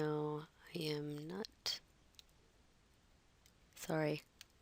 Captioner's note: pause